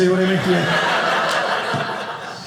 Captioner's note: audience laughing